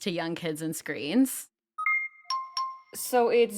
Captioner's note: alert chiming